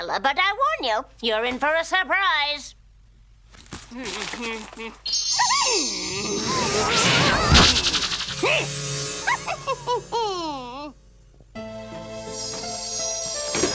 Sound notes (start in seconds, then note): 5.0 magic twinkling; 9.2 laughs